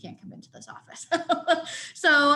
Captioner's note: laughs